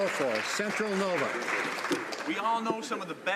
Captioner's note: some Applause